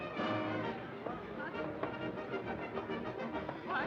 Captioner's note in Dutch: mensen praten